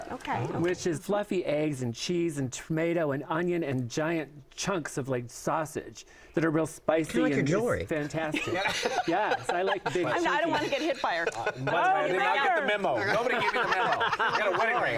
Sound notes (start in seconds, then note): 8.3 laughter